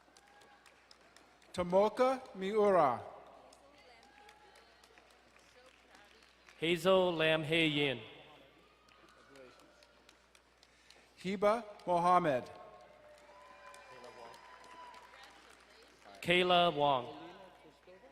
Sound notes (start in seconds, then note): 0.2 distant cheering; 3.4 crowd cheering and applauding; 13.8 crowd cheering and applauding